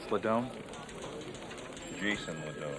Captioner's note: people chattering